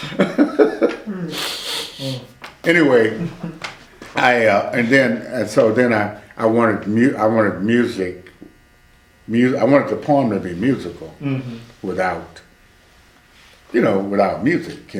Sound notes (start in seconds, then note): 0.0 laughs